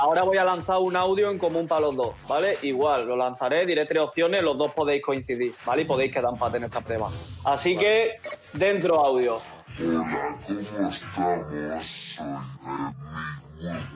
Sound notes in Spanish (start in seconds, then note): 10.1 voz ralentizada